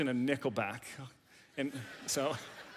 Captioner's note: audience laughs